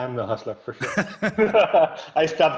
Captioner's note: laughter